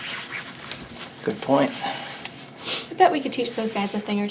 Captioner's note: tie rustling; sniffs